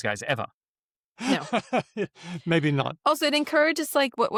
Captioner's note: laughs